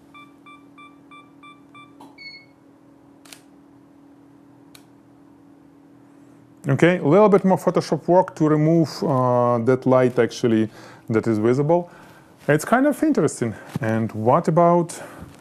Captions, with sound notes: (camera beeps) (shutter clicks) Okay, a little bit more Photoshop work to remove that light, actually, that is visible. It's kind of interesting, and what about?